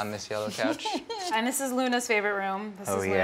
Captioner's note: laughter